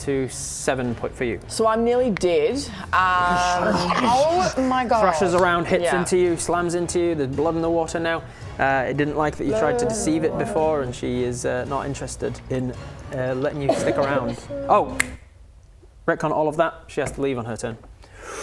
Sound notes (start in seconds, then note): 15.0 snap